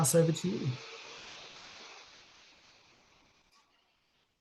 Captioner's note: air whooshing